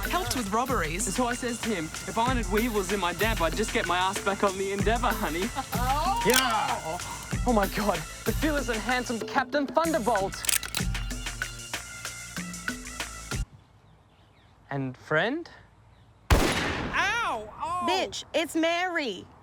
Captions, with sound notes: Helped with robberies... And so I says to him, if I wanted weevils in my damper I'd just get my ass back on the Endeavour, honey. YAH! Oh my god, the fearless and handsome Captain Thunderbolt! (gun cocks) And friend? (gun shot) Ow! B*tch, it's Mary.